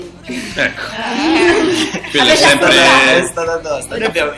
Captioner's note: laugh